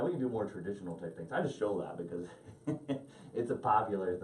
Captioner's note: laughing